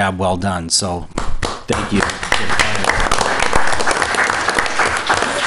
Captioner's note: applause